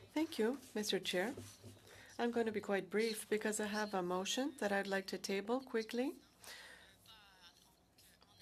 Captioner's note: speaking French